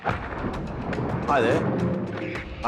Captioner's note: thunder rumbles